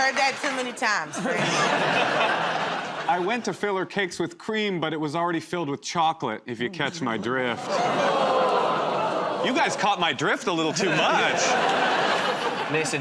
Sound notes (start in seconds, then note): 1.1 laughter; 7.4 audience groans